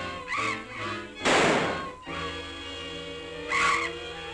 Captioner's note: gun roaring